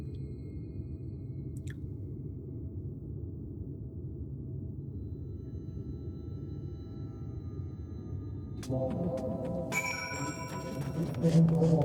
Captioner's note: bell ringing